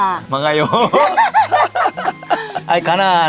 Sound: both laughing

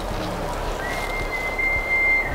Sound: elk bugling

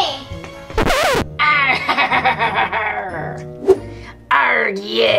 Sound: record scratches; laughs

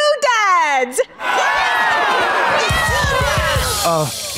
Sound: cheering

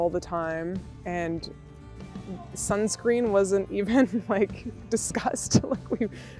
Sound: laughs

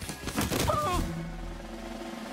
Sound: moaning

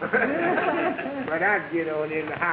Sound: audience laughing

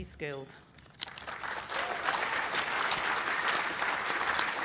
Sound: applause

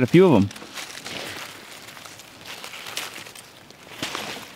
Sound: leaves rustling

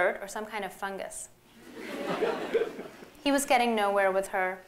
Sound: laughter

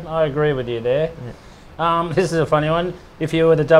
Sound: laughs

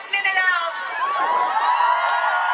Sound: crowd cheers

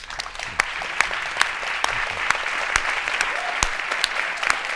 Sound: audience clapping

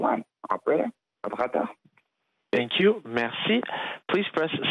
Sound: speaking French

